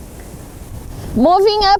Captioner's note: wind blowing